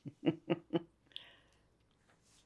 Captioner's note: laughing